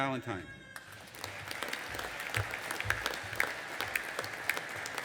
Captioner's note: audience applauding